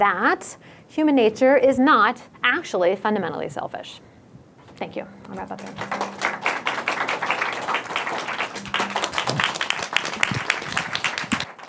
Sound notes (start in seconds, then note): 5.5 applause